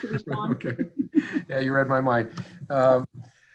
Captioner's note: members laughing